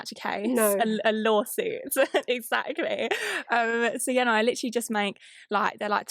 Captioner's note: laughs